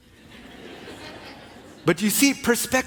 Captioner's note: congregation laughing